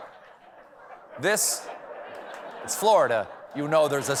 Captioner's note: laughter